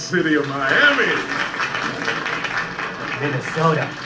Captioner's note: applause